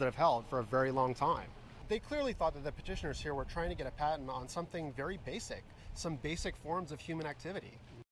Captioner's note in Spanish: voz en off de ctd